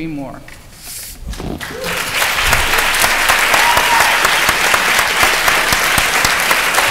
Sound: applause

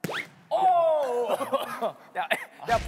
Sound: cough

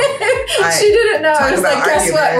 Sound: laughs

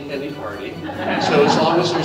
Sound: audience laughs

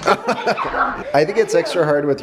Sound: chuckles

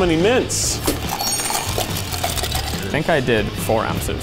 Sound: ice rattling

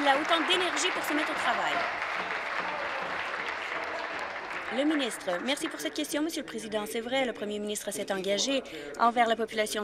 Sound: applause

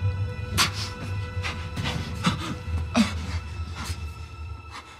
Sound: Edgar gasping

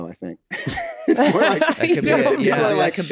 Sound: group chuckles

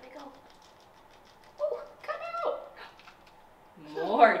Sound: Cheerios rattling

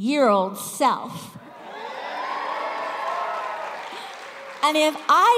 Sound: cheers

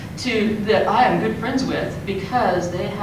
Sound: none

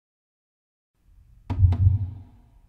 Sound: slow steady heartbeat begins

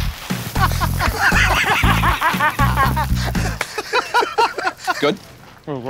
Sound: laughter

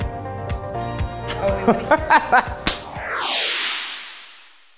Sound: laughing

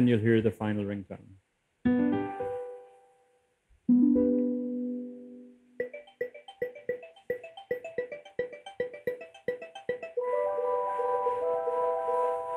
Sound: musical ringtone

